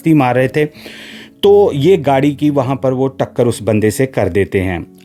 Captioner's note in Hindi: अचानक ज़ोर से सांस लेने की आवाज़